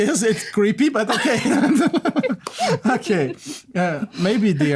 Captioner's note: laughter